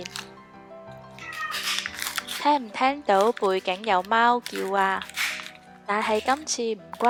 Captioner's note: meow